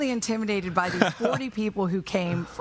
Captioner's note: laughing